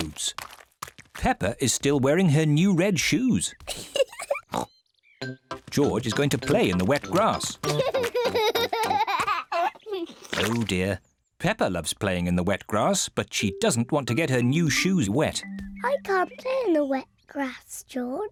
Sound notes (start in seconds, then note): 3.6 giggles and oinks; 7.5 laughing